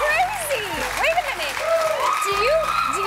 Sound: cheers and applause

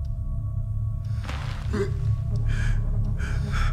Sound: moans and gasps

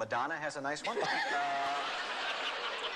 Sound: laughter

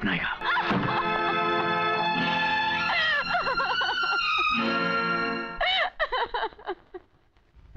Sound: sobbing

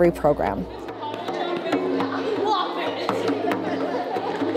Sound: chatter, laughter

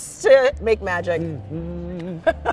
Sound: humming; laughing

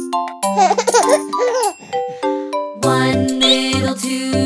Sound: playful music; chuckles

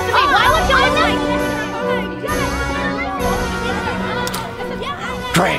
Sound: loud arguing

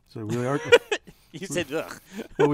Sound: laugh

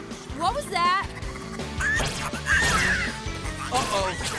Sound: squeaking

